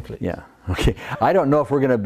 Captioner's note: laughs